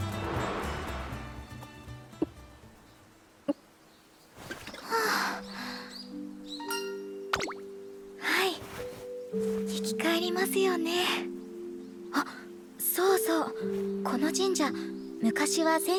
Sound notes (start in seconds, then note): 0.9 sigh